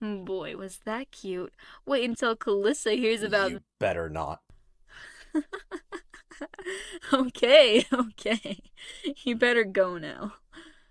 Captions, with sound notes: Boy, was that cute! Wait till Calissa hears about th-- --You better not. *Vivian laughs* Okay, okay, you better go now.